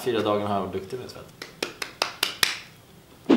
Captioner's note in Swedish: klappar händerna